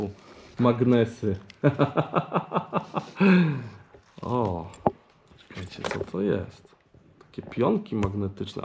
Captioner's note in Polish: śmiech